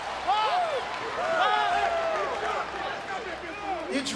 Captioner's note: crowd cheering